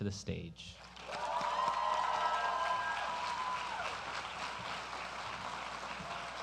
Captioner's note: applause